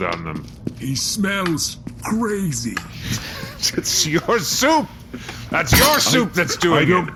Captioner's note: bangs table